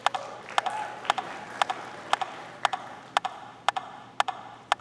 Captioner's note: audience clapping